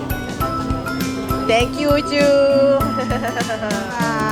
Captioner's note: background music; laugh